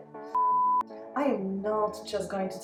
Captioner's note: beeps